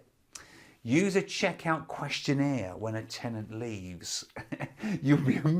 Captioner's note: laughs